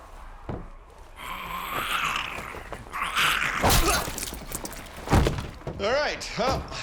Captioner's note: zombie snarling